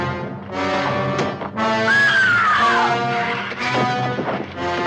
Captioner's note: suspenseful music; screams loudly